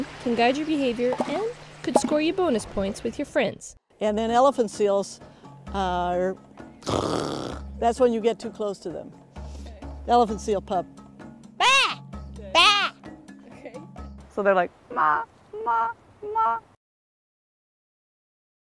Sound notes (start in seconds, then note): 6.8 snorting sound